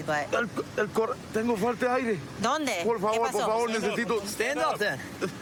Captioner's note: speaking spanish